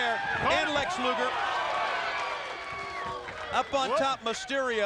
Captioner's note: crowd cheering